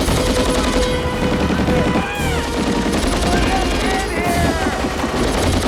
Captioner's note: shouts